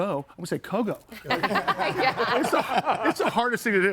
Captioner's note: group laughs; laughs